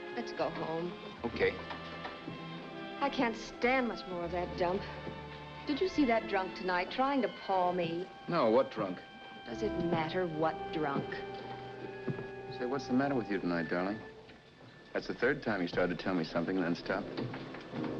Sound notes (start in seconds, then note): none